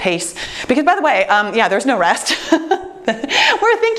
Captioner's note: laughing